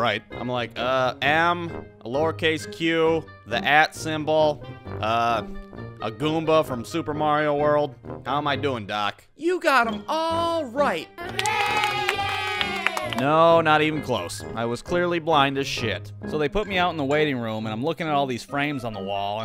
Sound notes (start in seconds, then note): 11.2 applause